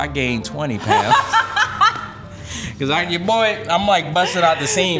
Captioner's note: laughing